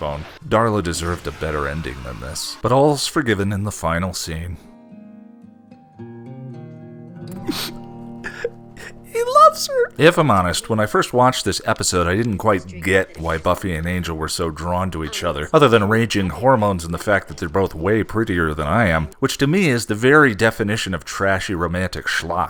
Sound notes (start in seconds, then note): 7.4 sniff